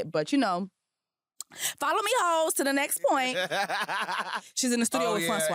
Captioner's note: laughter